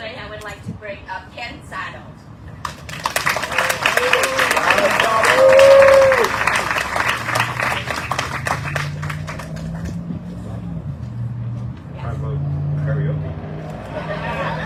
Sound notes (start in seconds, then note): 2.7 audience cheering, applauding; 13.8 audience laughs